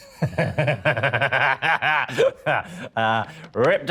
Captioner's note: Danny laughs